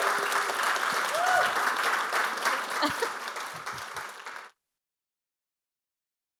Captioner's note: audience applauding continues